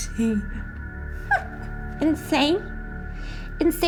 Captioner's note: laughs